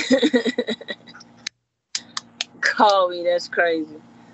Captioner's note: laughing